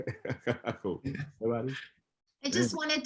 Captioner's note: chuckles